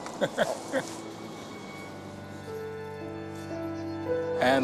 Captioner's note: chuckles